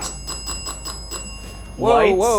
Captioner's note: REM pod beeping; bell ringing